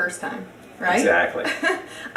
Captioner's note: laughs